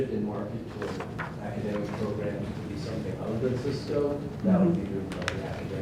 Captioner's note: speaking off mic